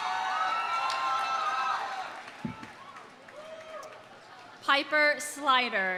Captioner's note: audience cheering; audience applauding